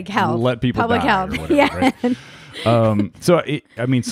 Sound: laughs

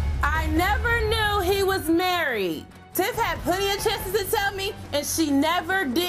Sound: none

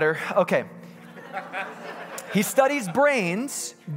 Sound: congregants laughing

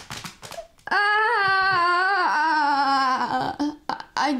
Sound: yells

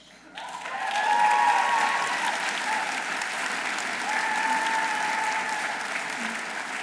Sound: audience applauding; audience cheering

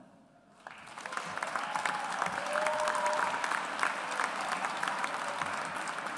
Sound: audience applauds

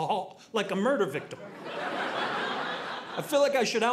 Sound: audience laughing

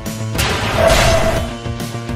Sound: Gryffyn jumpscare SFX

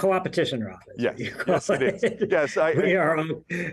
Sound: both laugh

